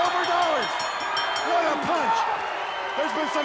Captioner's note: bell dinging